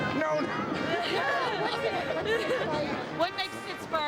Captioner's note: laughing